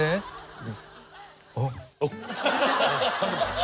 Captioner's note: sobbing